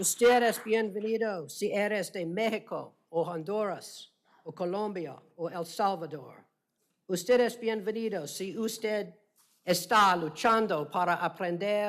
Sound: speaking spanish

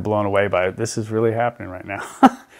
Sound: laughs

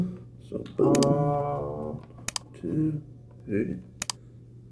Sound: mouse clicking

